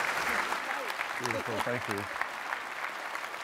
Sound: applause

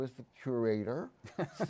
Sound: laughs

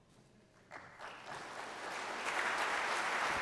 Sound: applause

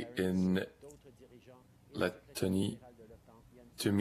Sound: speaking French

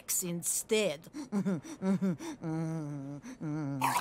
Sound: chuckles

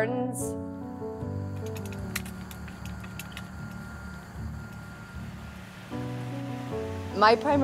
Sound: raking and hoeing

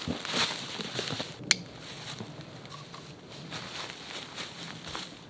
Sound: leaves rustling; buckle clicking

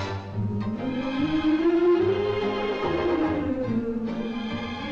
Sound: melodic humming

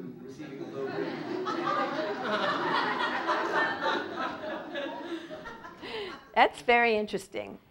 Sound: laugh

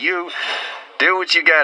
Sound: need some rest noises

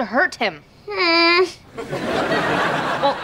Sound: groaning

